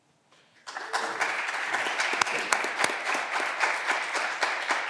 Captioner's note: clapping continues